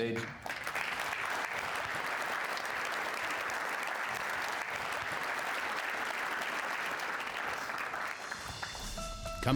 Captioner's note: applause